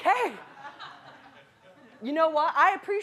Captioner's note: audience laughing